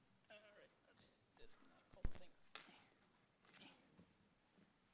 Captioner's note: speaks faintly